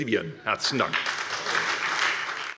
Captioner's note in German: Anhaltender Beifall bei der SPD - Beifall bei der FDP